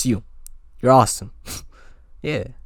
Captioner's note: inhale